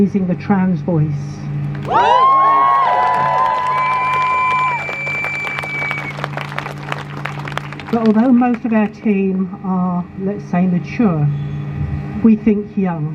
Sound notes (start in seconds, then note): 1.8 crowd Cheers